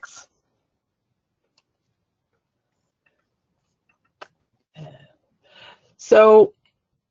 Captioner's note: silence